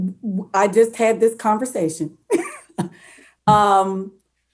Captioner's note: laughs